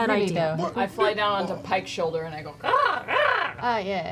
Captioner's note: caws